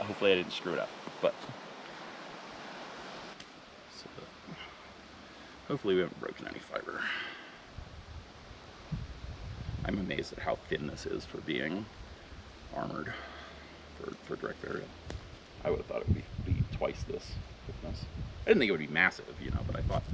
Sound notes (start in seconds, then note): 7.7 wind whirring